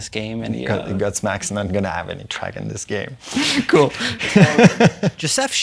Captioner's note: laughs